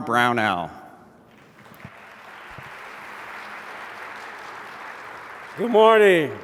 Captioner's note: applause